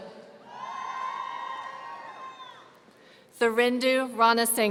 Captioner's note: audience cheering